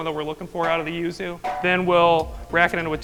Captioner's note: hammer banging